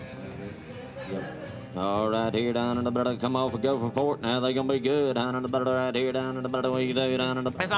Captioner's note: auctioneering